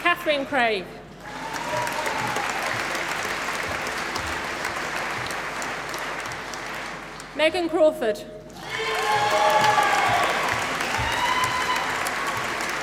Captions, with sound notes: Kathryn Craig. (APPLAUSE) Megan Crawford. (APPLAUSE)